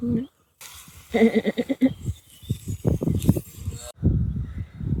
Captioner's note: mimic of Woodpecker